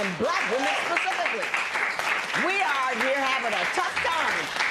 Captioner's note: applause